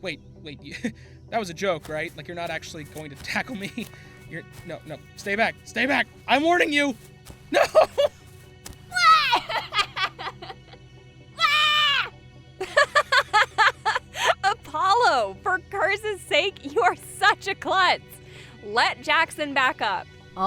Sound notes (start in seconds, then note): 8.9 Atticus squeals and laughs; 12.6 Lunis laughs